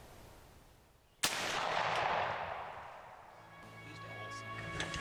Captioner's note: gun shot